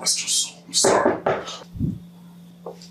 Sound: knock on the door

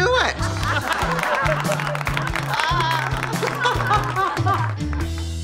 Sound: laughing, applause

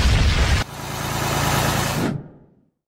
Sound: Explosión; Más sonidos de reparación

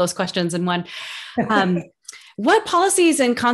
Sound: laugh

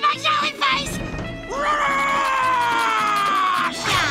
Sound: roaring; groaning

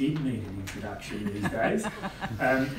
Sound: laugh

